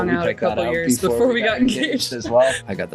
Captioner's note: laughs